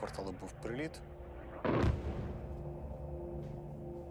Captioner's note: loud explosion